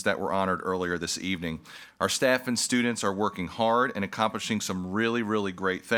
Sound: none

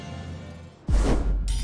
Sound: swoosh

